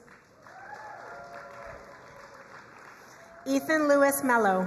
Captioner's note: crowd cheering and applauding